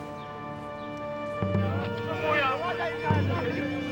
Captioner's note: shouting